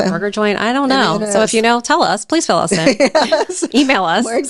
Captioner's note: laughing